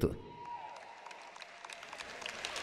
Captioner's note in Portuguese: audiência aplaude